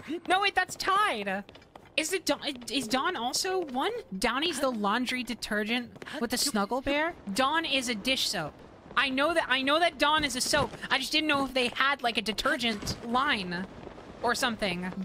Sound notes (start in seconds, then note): 1.9 stammering